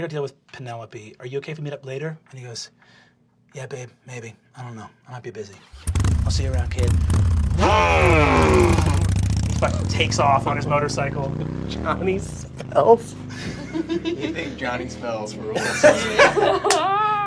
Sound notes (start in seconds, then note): 5.6 motorcycle sounds; 13.3 laughing